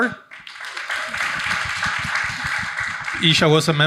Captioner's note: audience applauding